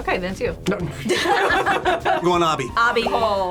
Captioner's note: group laughs